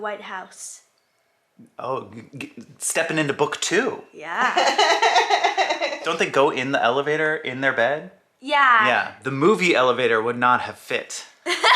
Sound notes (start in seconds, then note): 4.3 laughing